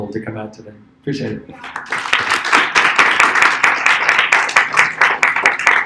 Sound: applause

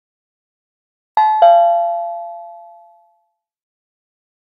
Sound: sound of bell

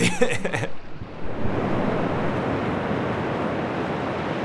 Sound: laughs; waves whooshing

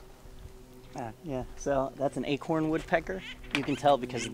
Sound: woodpecker chattering

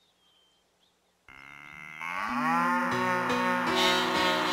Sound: mooing; bleating

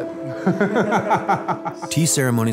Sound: laughing

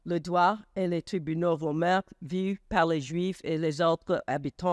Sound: speaks foreign language

